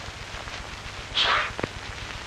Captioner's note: sneeze